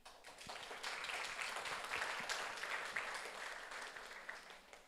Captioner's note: audience applauds